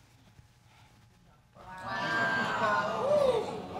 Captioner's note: crowd exclaiming